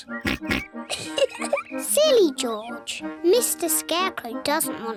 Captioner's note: oinks; giggles